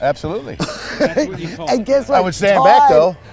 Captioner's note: laughing